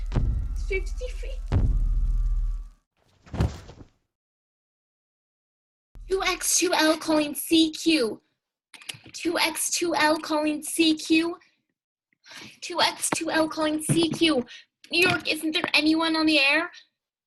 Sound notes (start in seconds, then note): 3.2 thud of body falling